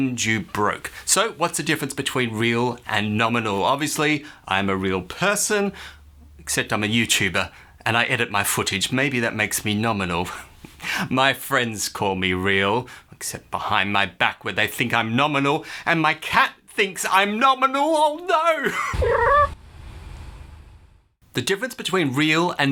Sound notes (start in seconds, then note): 19.0 meow